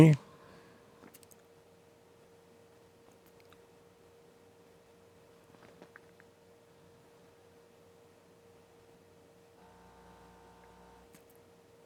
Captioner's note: silence